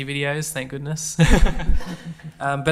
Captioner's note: all laugh